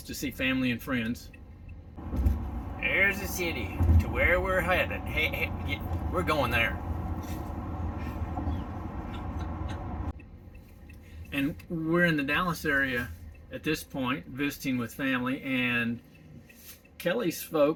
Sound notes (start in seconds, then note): 9.1 chuckling in background